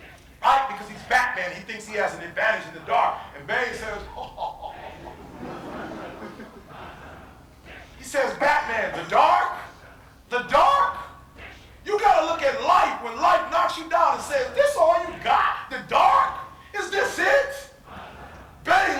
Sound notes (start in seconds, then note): 6.3 audience laughing